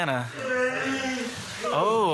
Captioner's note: yawns loudly